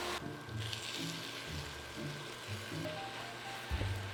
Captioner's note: sizzling